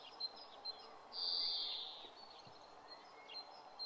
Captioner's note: birds chirping